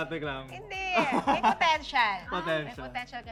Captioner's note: chuckles